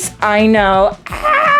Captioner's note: yells